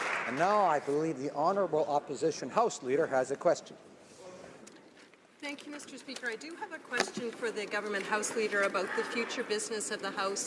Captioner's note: applause